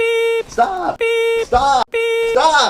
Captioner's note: beep; beep